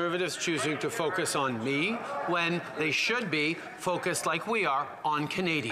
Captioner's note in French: voix de l'interprète